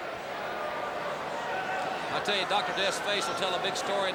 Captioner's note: crowd cheering